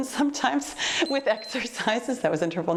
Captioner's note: timer beeps